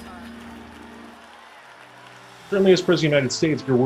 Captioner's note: crowd applauding